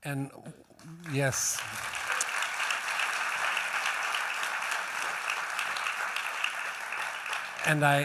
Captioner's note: applause